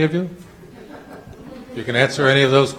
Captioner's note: audience laughing